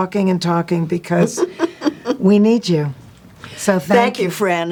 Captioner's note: Jane chuckles